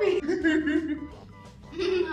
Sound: laughing

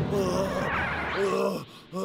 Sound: heavy panting

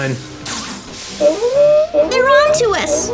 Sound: alarm claxon

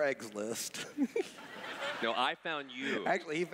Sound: laughs

